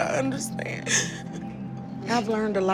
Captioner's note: sobs